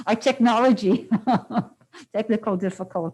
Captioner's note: laughs